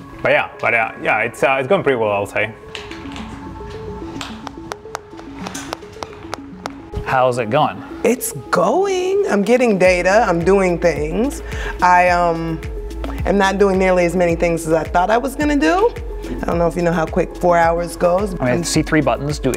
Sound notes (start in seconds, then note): 4.3 clapping